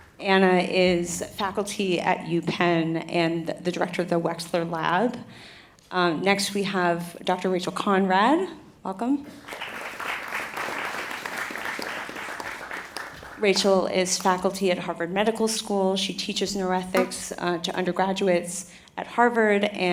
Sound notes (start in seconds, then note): 9.2 applause